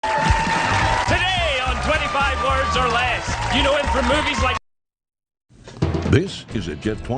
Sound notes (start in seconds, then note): 0.0 audience claps and cheers